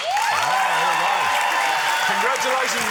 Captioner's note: cheering, applause